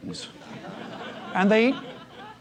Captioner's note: laugh